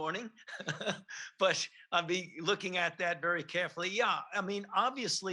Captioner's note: laughs